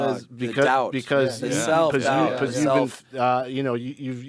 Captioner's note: group chattering